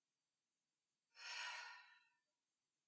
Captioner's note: nyx sighs